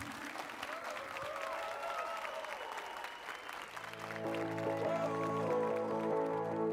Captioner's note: applause and cheers